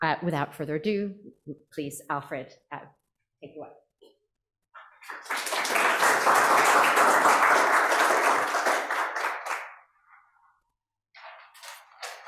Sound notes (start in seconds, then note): 4.8 audience applauds